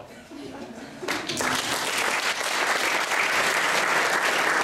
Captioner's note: applause